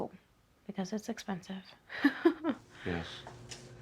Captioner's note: laughs